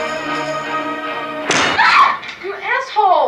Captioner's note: smack; scream